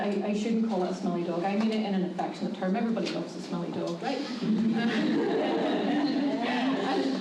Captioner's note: laughter